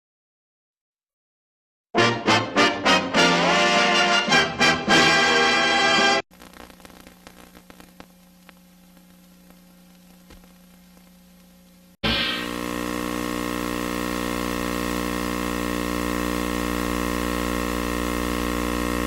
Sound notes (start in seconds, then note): 1.9 old-fashioned music playing; 6.3 old film static; 11.9 analog tape static